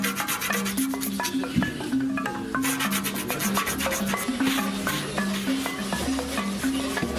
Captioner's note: blade rasping